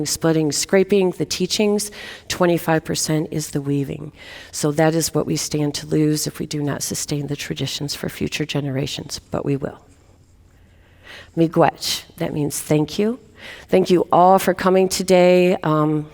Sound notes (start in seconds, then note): 10.3 speaking in native language